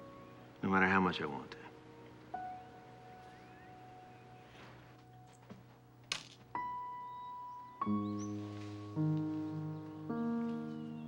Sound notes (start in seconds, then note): none